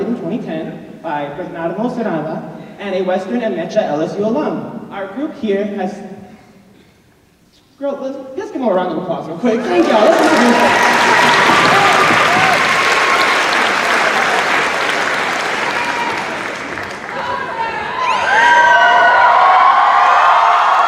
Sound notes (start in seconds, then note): 9.6 cheers